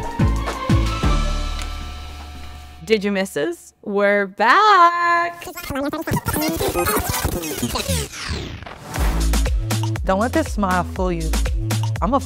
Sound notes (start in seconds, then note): 0.0 upbeat music; 5.4 fast-forward squeaking; 8.8 dynamic music